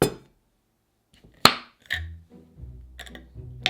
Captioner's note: jar lid popping